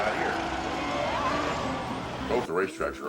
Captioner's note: crowd cheering